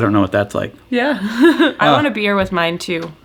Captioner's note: laughs